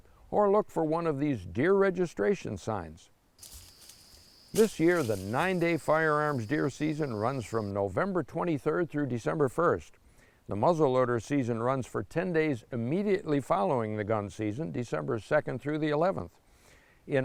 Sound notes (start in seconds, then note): 3.4 leaves rustling